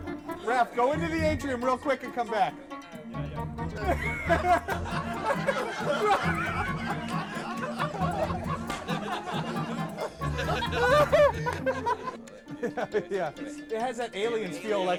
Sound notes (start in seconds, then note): 3.1 all laughing